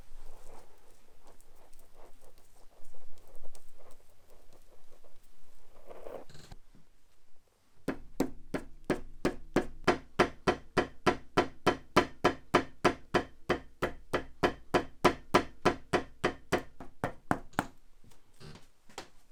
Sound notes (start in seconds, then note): 8.5 hammer banging